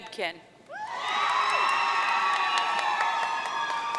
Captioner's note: audience cheering